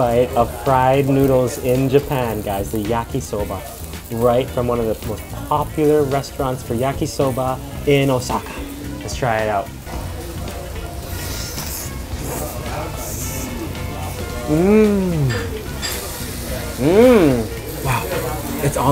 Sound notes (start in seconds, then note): 10.7 light jazz music; 11.1 noodles slurping